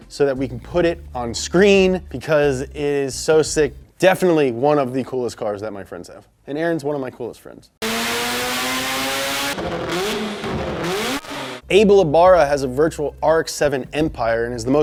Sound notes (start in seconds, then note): 7.8 engine revving